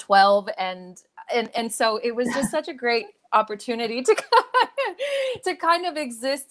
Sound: laughs

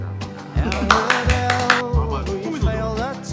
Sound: clap, clap, clap

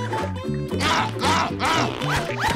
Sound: grunting

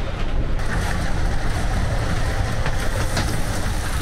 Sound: wind blowing

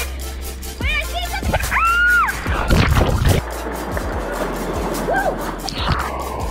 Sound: screams

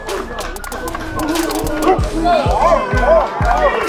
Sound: growling and barking; hip-Hop music

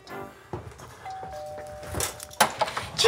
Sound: doorbell rings

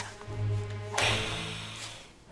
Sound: hissing

